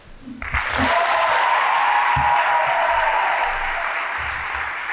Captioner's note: audience applauding